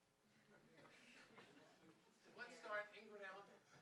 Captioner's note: audience laughing